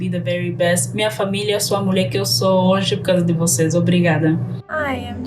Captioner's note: speaking in foreign language